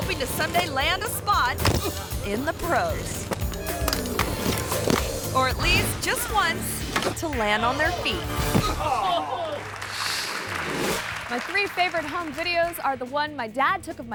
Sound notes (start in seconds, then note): 3.7 skates clank; 8.4 skater thuds and groans; 9.1 audience applauds